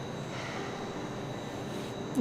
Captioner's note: Emma sighing